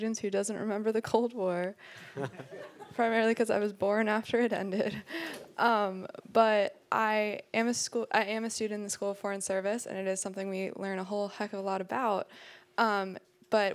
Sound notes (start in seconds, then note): 2.1 people laughing